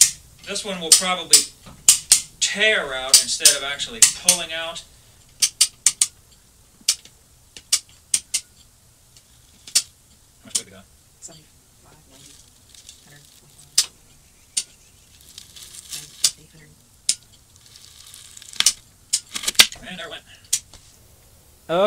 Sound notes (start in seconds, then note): 0.0 metal clicking; 13.1 drywall tearing